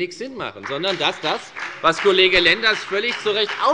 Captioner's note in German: Beifall bei der FDP